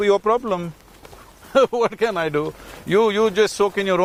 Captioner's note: laughs